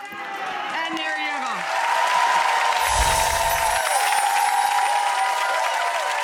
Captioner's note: audience applause